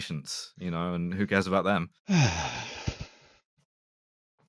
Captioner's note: sigh